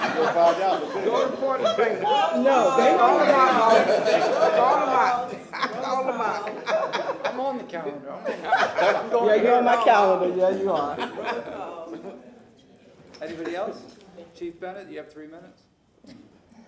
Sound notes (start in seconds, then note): 2.6 laughter